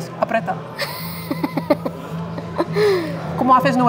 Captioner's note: mischievous laugh